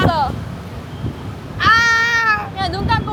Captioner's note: scared